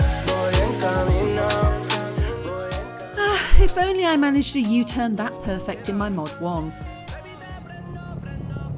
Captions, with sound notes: [sigh] If only I managed a U-turn that perfect in my Mod 1.